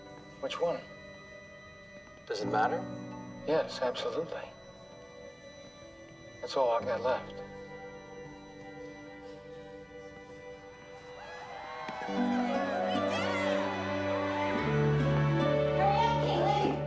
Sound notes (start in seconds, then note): 11.1 cheering